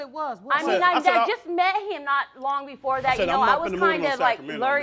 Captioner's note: none